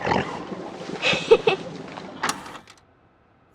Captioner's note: laughs